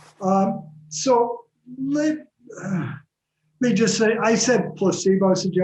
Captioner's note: exhales heavily